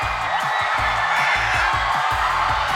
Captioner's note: crying